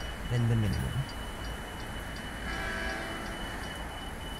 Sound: train Honks

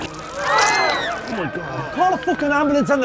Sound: crowd screaming

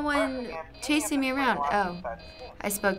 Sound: in game: alarm buzzes

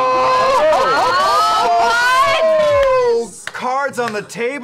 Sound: shouting

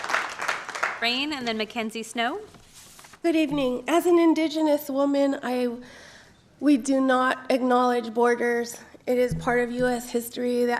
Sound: applause

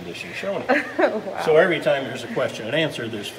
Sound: laughing

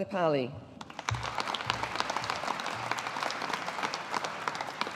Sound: audience applauding

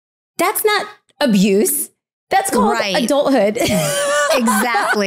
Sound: laughs

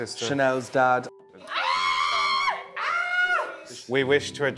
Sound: screaming

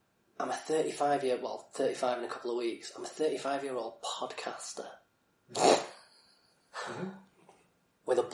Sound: laughs

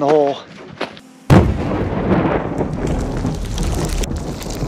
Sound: explosion

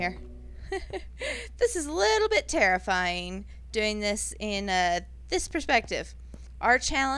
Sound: laughs

